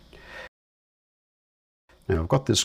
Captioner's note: silence